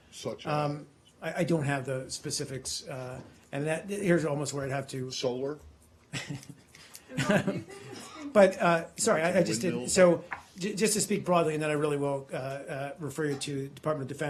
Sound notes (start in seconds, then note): 7.1 laughter